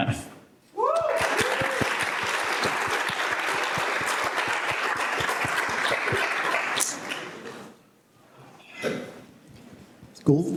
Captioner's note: applause and cheers